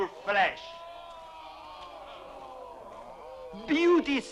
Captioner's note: chieftains exclaiming